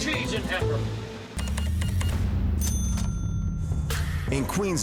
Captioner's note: cash register beeps